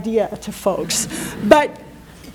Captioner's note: chuckling